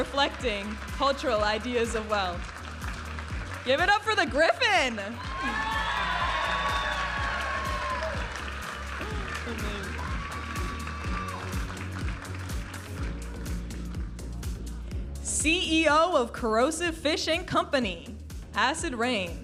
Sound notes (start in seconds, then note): 4.7 audience applauding and cheering; 9.2 upbeat music